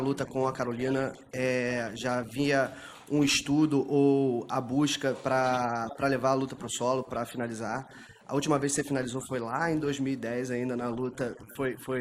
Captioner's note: speaking foreign language